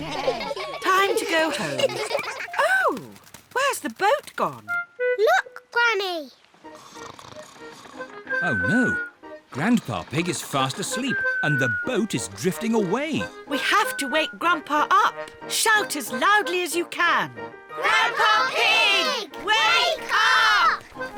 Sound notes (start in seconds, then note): 4.4 snores